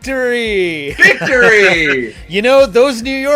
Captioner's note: laughs